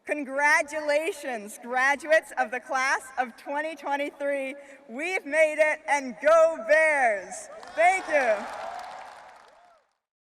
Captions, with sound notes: Congratulations, graduates of the Class of 2023. We've made it and Go Bears! Thank you. (crowd cheering) (crowd applauding)